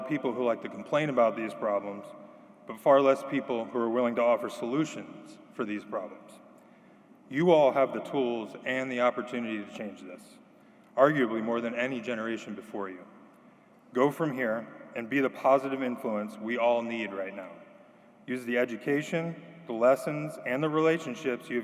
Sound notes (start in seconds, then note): none